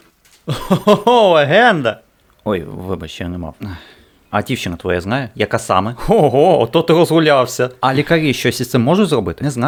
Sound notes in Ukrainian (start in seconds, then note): 0.4 сміх